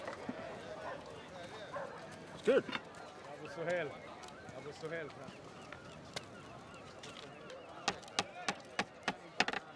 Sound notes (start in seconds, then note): 4.0 man speaking in arabic